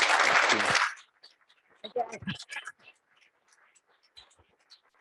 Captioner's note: audience applauds